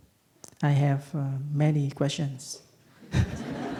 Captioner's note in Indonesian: Tertawa